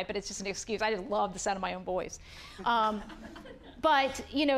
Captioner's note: audience laughing